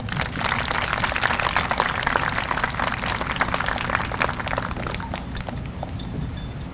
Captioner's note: applause